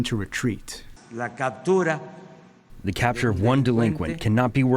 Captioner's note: through translator